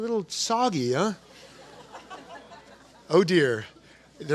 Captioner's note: laughter